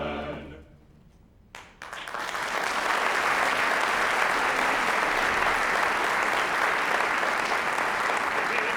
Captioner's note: applause